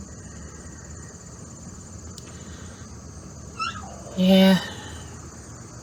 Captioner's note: Ella howls